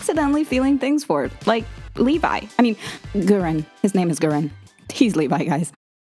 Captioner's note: gasps